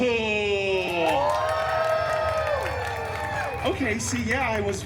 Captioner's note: guests cheering and applauding